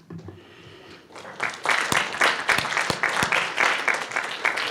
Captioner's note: audience claps